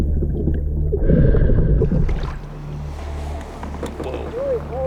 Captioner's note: water splashing